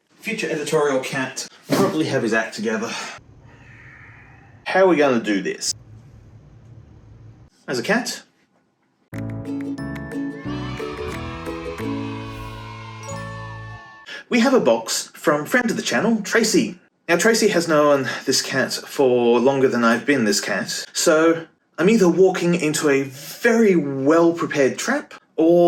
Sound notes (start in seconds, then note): 3.4 sighs in Editorial; 9.1 upbeat music playing; 10.2 children cheering